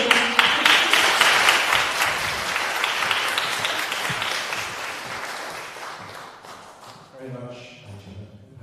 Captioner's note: applause